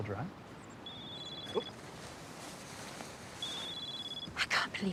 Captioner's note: phone rings